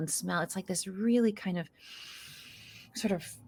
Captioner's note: inhales deeply